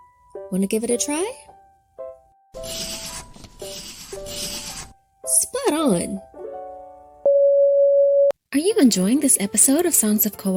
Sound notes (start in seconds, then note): 2.5 pencil scratching; 7.3 soft beeping